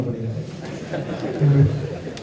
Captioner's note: participants laugh